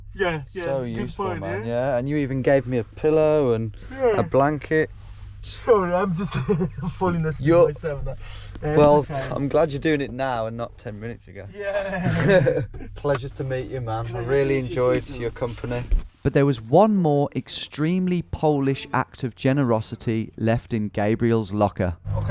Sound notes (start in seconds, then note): 11.6 laughing